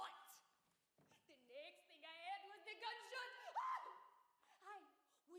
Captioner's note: screams